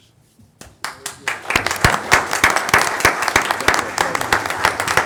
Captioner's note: audience applauding